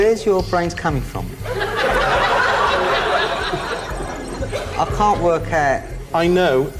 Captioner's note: audience laughs